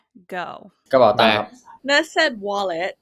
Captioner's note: in Thai